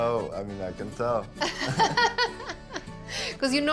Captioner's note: laughter